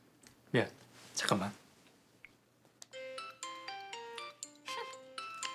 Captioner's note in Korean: 휴대전화벨 소리